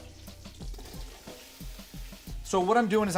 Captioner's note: sizzling